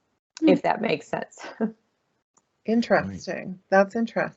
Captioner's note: chuckling